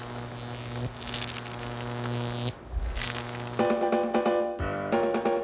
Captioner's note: <i> electrical buzzing</i>